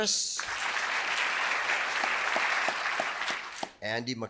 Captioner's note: audience applauding